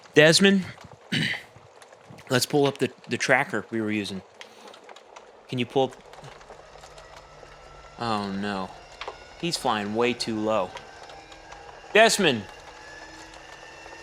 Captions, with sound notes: Desmond? (clears throat) Let's pull up the the tracker we were using. Can you pull up...? (muted sounds of an airplane diving) Oh, no. He's flying way too low. Desmond! (droning pitch screams higher)